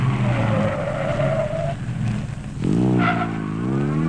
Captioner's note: tires squealing